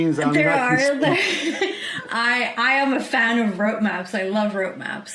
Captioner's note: laughs